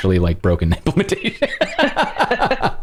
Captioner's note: laughter